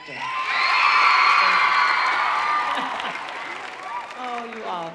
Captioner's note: audience cheering